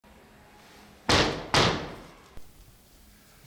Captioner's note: knocking sound